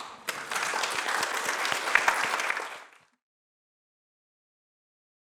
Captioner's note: applause